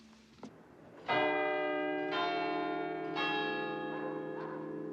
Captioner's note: CLOCK CHIMlNG